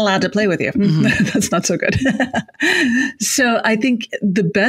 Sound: chuckles

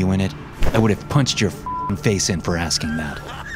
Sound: beep

